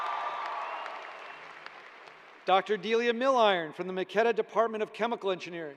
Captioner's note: cheers and applause